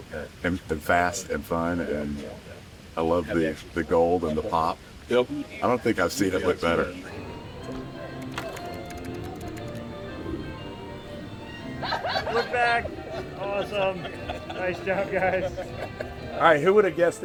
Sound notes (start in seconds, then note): 11.5 laughing